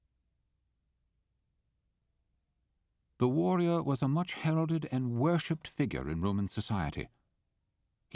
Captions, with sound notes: - [Voiceover] The warrior was a much heralded and worshiped figure in Roman society.